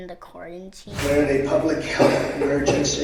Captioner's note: wooshing